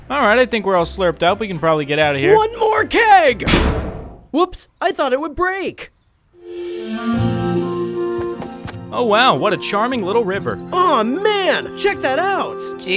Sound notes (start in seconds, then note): 3.5 keg thudding; 6.4 upbeat calm music begins; 8.0 footsteps tapping